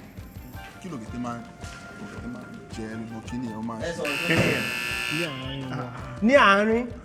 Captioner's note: buzzer pressed